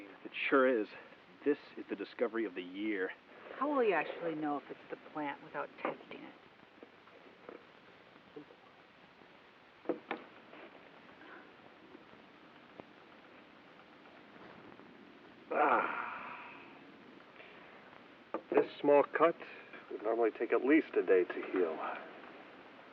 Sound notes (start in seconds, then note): 15.3 groaning